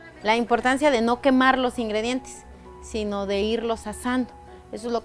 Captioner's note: speaking foreign language